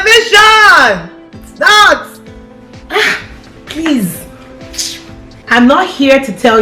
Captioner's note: hisses